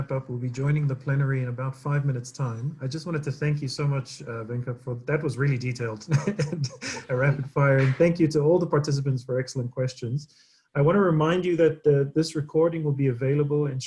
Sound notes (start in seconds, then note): 5.2 laughs